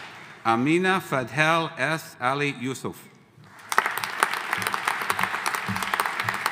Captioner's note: audience applauding